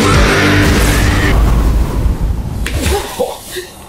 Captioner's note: explosion